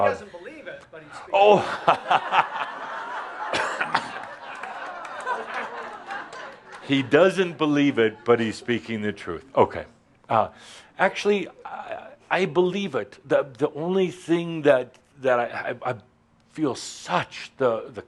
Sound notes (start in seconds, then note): 10.2 laughter and chuckles